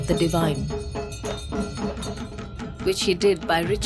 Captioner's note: bells jingling; soft drumming